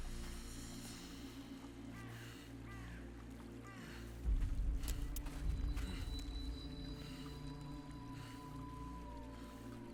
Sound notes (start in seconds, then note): 0.3 suspenseful music; 1.8 crow cawing